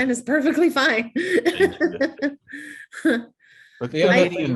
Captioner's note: laughing